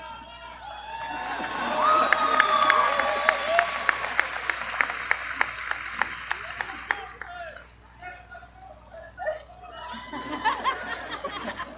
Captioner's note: appaluse